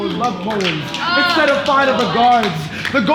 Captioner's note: clapping